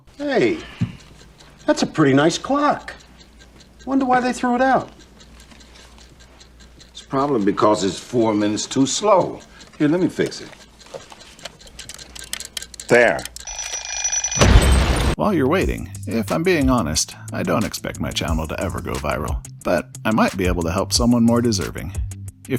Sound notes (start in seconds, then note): 14.4 explosion